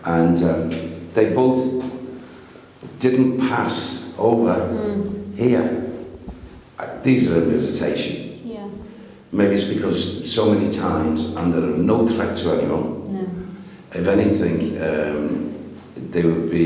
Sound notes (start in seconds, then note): none